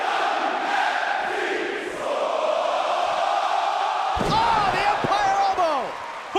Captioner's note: fans chanting